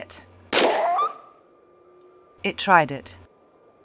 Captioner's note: bam